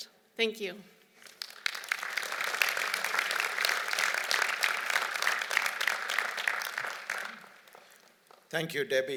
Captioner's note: applause